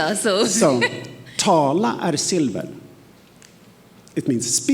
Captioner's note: speaks in Swedish